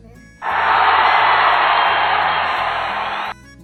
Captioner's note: applause